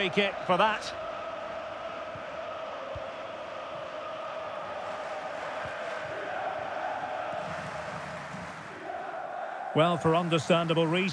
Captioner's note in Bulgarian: Аплодисменти